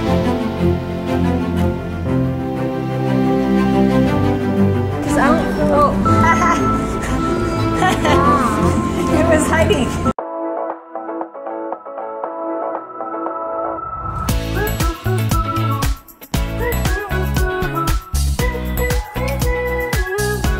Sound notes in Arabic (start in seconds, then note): 0.3 موسيقى مكثفة; 5.7 ضحك; 10.5 موسيقى بوب مبهجة